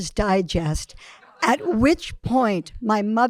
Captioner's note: audience laughing